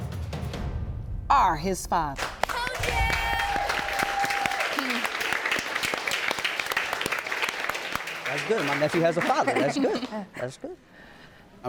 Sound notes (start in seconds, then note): 2.6 audience clapping; 4.7 chuckles